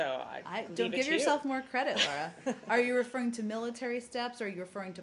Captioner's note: laughter